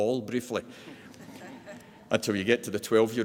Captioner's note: laughs